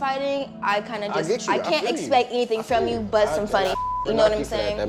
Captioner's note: beep